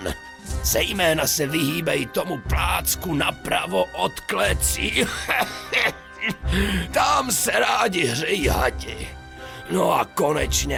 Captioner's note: cough